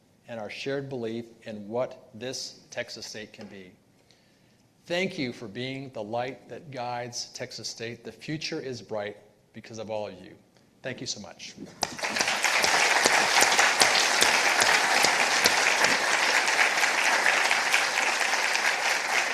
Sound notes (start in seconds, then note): 11.8 participants applauding